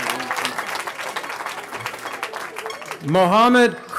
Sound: cheering

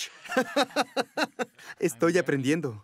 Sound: ríe

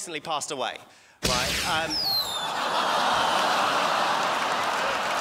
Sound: confetti cannon goes off; crowd laughs

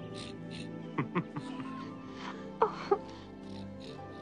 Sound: chuckling

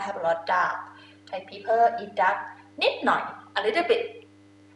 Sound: talking in foreign language

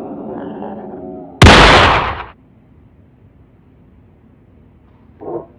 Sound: pistol cocking; pistol shot; unknown animal cry

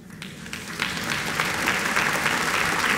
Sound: applause

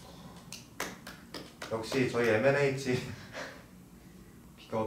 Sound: clapping

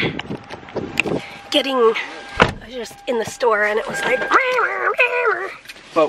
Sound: imitating alarm

